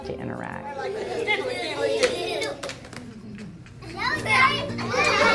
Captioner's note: teacher and children laughing together